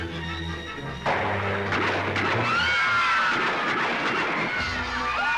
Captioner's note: gunshots and screams